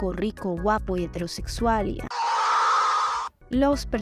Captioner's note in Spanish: Grito desgarrador de cringe